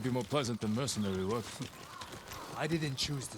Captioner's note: laugh